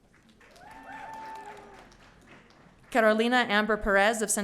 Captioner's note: audience cheering